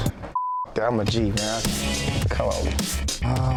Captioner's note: beep; upbeat music